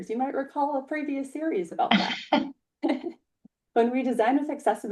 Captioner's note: laughs